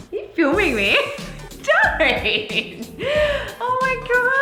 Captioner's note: laughs